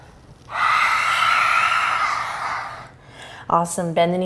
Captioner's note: exhales loudly